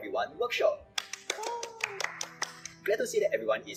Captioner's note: claps